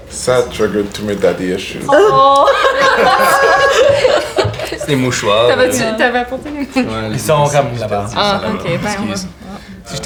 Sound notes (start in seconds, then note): 1.8 they all chuckle